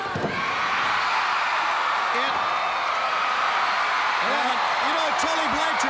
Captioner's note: crowd cheering